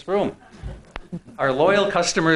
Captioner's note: scattered laughing